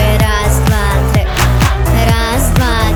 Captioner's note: Clapping